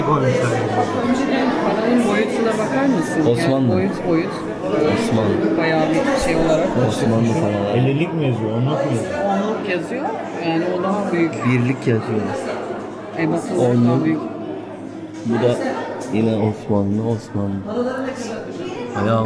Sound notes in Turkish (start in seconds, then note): none